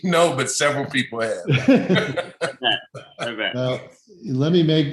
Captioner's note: laughs